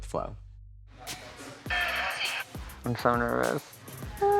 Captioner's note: background chatter